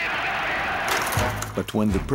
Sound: crowd shouting

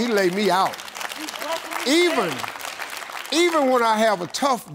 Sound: applause

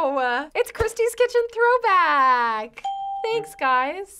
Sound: ding

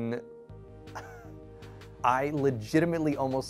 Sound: laughing

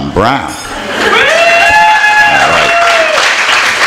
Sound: applause

